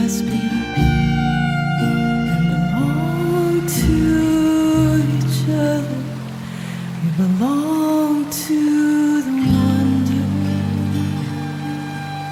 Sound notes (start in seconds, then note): 4.9 water running